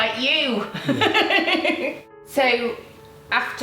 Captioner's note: laughing